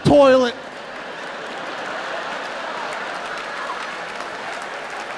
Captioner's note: audience laughing